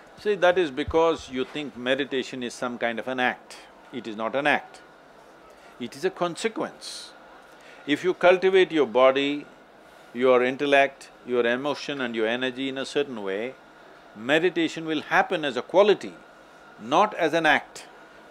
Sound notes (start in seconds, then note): none